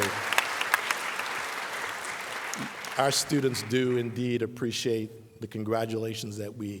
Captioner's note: applause